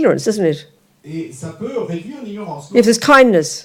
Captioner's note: French